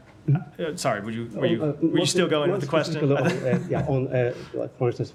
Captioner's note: laughter